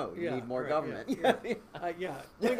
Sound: laughing

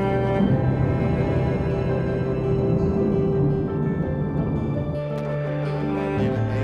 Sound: jet engines

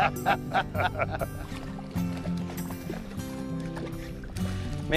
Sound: laughter; splashing

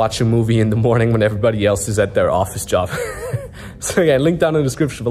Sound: laughs

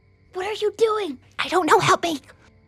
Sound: whispering

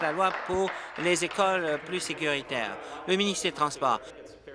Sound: applause

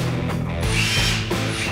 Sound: drill whirs

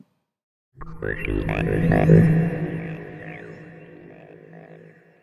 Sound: electronic droning

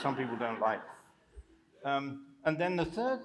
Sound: laughter

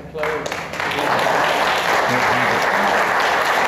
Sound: applause

